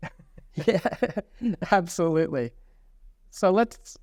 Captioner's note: laughs